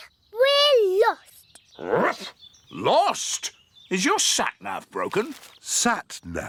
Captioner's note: barks